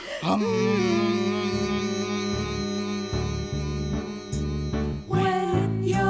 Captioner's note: humming